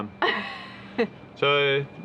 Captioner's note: laughs